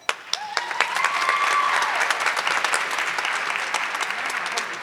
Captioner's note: audience clapping